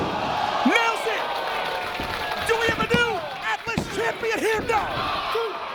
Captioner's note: applause